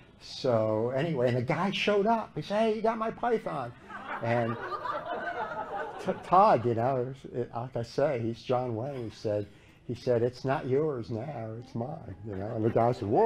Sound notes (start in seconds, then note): 3.7 laughter